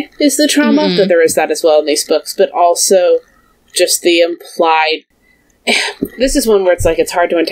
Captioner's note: sighs